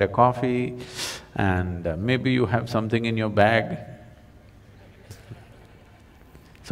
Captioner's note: laughs